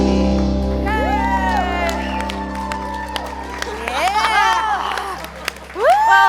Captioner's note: audience claps and cheers